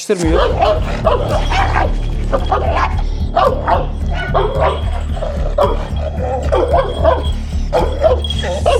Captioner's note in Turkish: Havlama sesleri ve gerilim müzik